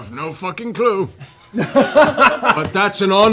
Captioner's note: laughter